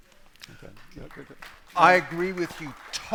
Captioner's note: applause